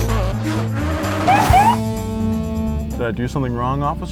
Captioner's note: cars speeding; police siren